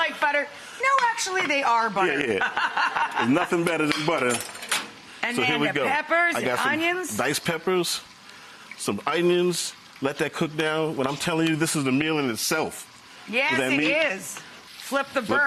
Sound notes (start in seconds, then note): 2.1 laughing